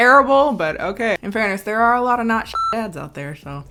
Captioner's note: beep